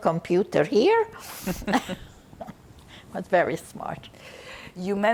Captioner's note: laughing